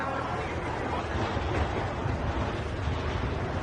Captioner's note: train rumbling